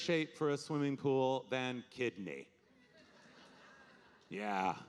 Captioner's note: audience laughing